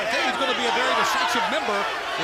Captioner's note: crowd chatter